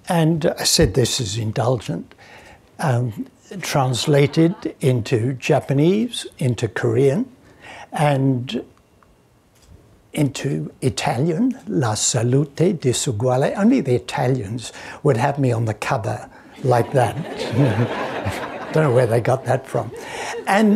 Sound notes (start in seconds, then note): 16.6 audience laughing